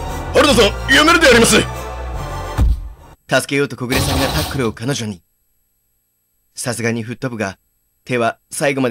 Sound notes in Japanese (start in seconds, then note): 2.4 衝撃で吹っ飛ぶ音：ドガシャン！; 2.6 体当たりの音：ドスン！